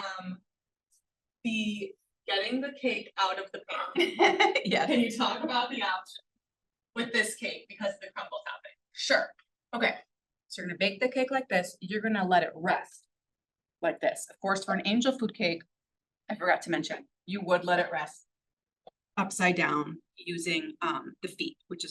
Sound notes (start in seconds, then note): 3.9 person laughing